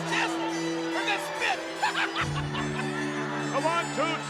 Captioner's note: chuckling